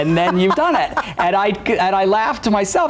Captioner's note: laughs